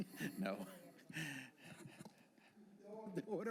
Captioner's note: laughter